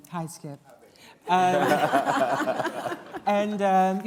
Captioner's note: laughter